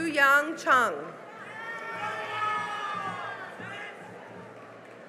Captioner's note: cheering and applause